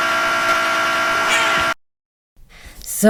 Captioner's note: meme screaming sound from "pizza tower"